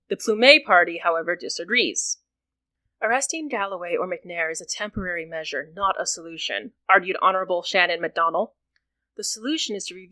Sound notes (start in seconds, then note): none